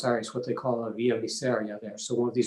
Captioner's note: foreign language